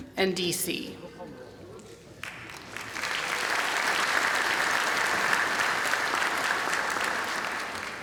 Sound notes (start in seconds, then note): 2.1 applause